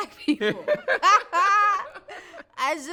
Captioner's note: both laughing